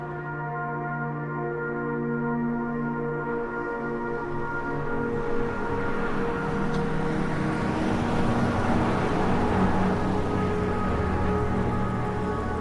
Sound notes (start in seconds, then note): 0.1 gentle ethereal music; 8.0 car engine revs